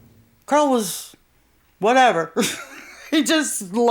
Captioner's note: laughs